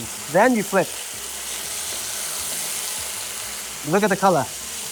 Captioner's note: sizzling sound